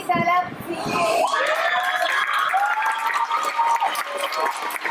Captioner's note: applause